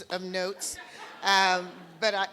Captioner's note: laughter